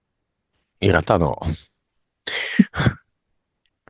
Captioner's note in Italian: risate